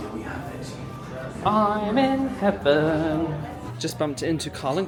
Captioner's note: sing-song